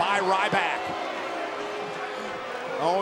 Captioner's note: audience chattering